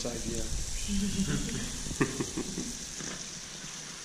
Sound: laughter

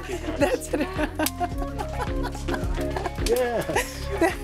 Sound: laughs

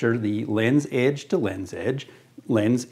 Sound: none

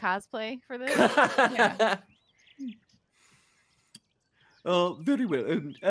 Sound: laughing

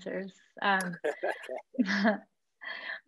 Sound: laughing

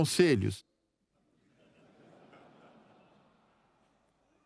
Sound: audience laughing

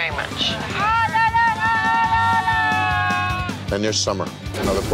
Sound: raucous shouting

